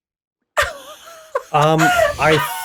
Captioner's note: laughing